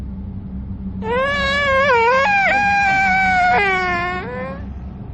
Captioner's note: child crying